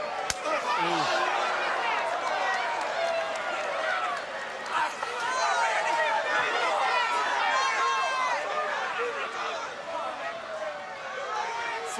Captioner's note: crowd cheering